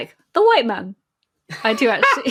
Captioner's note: laughs